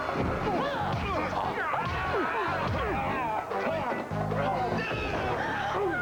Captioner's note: groans and grunts; gasping